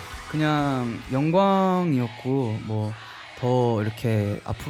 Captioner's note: Receiving chants at the Coachella